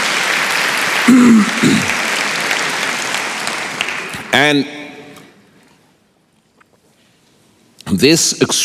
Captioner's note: applause